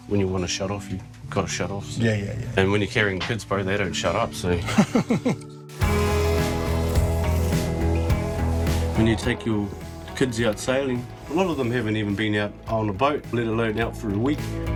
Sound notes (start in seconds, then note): 4.6 laughing